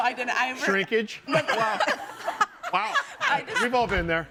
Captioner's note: all laughing